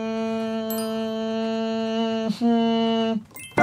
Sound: and making humming sound

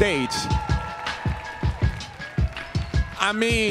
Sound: audience cheering

